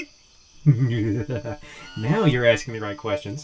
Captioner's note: Ace chuckles menacingly